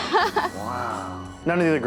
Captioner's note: laughs